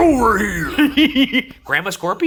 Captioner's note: laughing